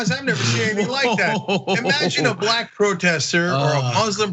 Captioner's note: laugh